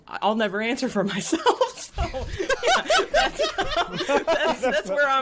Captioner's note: all laughing